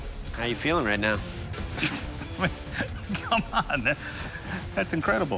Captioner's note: chuckles